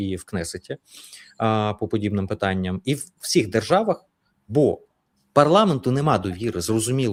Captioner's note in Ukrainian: сопіння